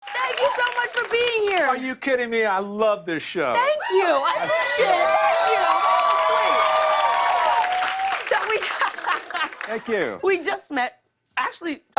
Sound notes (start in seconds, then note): 3.6 cheers and applause; 8.5 laughter